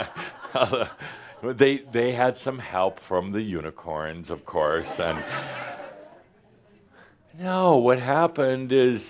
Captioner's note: laughter; more laughter